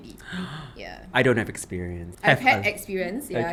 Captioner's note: gasp!